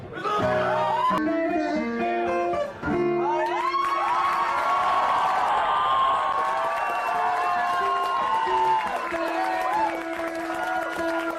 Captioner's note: applause